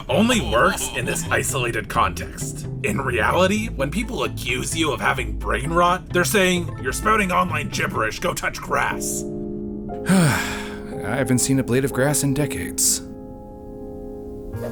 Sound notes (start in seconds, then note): 10.0 lorne sighs